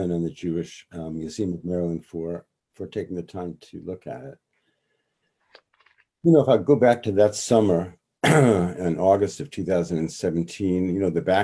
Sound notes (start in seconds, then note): 8.2 clears throat